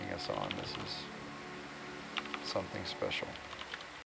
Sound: keyboard clacking

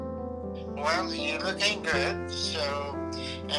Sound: on phone

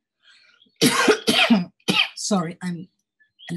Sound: coughing

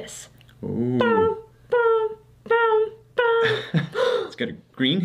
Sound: imitates alarm ringing

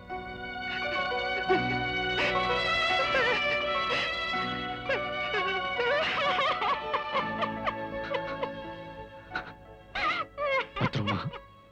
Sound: crying

